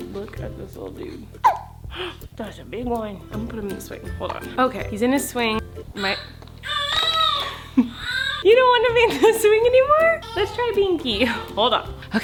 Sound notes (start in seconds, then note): 1.4 baby hiccups; 6.6 baby cries